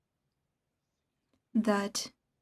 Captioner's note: speaking French